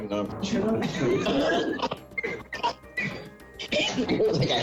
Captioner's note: laughter